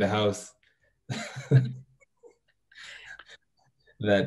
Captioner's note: chuckles